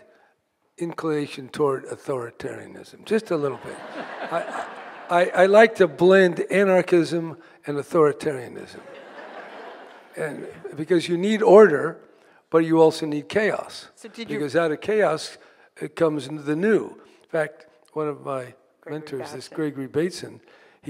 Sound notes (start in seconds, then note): 3.5 audience laughing